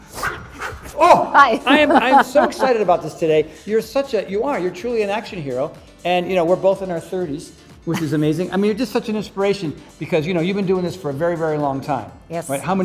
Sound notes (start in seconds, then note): 0.0 breath whooshing; 0.8 laughs